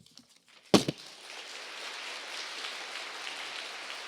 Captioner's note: applause